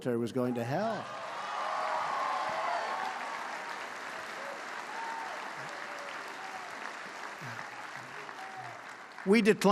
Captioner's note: applause